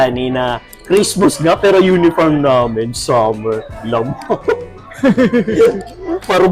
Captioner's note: laughs